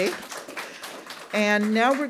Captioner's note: audience applauds